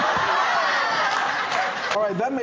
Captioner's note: audience laughing